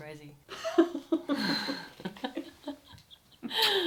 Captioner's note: they laugh